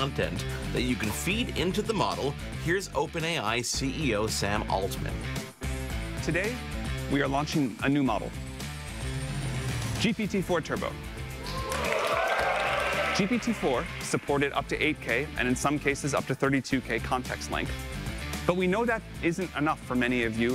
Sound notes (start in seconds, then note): 11.4 audience cheers; 11.4 audience applauds